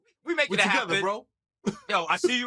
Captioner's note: laughs